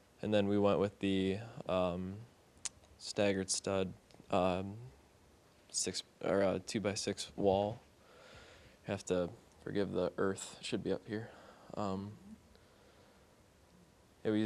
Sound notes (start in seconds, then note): none